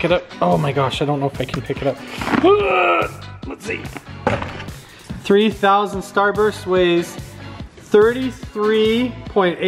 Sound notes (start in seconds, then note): 2.3 grunting; 4.3 plopping